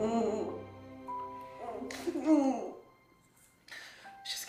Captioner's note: Meg grunting